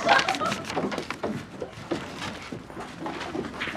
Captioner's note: kids laughing